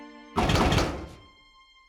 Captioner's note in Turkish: kapı açılır